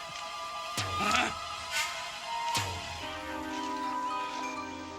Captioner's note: man grunting